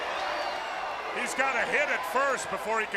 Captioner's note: crowd chatter